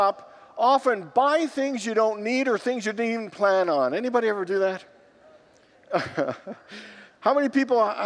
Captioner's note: congregants laugh